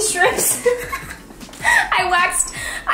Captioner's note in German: lacht